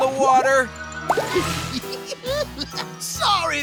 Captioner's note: giggling